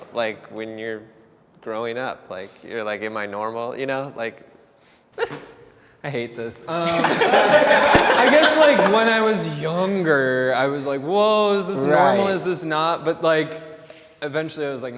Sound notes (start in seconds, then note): 6.7 interviewees laugh; 6.8 laughs